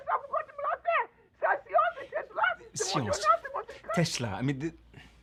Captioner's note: Cassie screaming in French